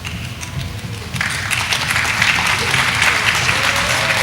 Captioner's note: audience applauding